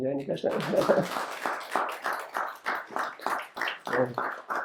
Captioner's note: audience applauds